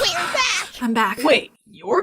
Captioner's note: panting